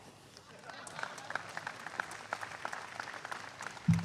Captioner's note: applause